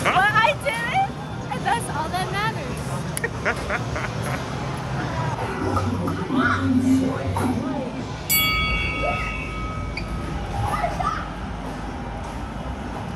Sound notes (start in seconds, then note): 3.2 laughing; 8.3 ding